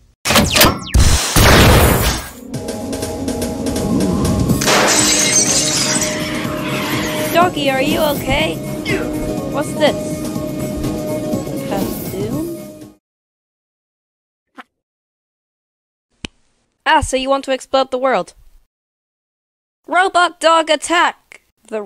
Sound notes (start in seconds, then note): 0.9 boom!; 0.9 cannon Noises?; 4.5 crash!; 5.6 skid; 12.9 awkward Silence; 16.2 finger Snap